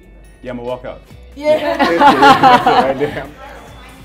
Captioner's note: laughing